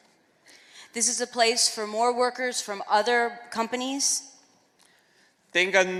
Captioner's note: speaking spanish